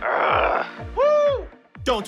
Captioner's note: groans; cheers